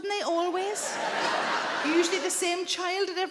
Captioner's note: audience laughing